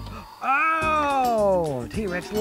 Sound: dinosaur roars

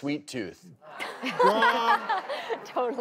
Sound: laughing

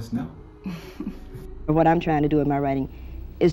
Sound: chuckles

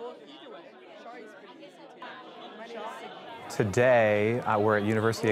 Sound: indistinct chatter

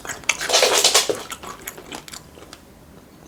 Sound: the sound of cats jumping cat

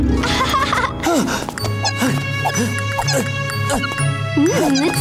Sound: laughing; grunting

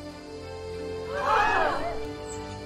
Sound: crowd gasps

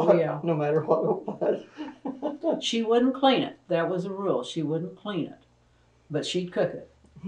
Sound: laughter

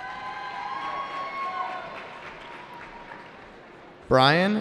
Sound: cheering

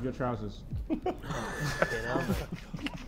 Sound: Sidemen laughing

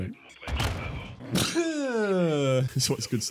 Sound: obnoxious sneeze

